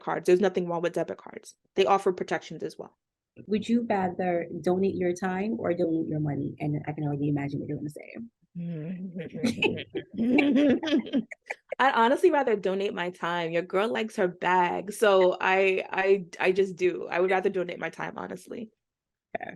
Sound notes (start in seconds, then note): 9.4 laughter